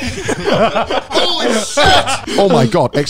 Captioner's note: laughs